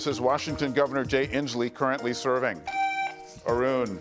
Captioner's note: buzzer beeps